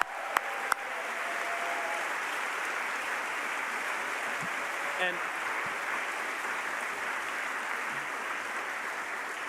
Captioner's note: applause